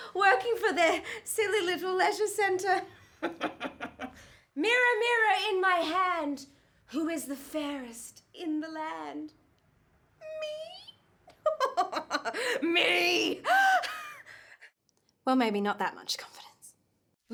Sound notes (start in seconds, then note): 3.2 laughing; 11.3 laughing